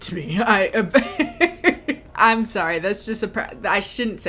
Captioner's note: laughing